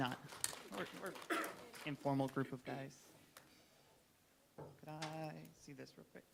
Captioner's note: applauding